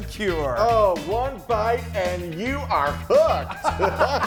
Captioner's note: laughing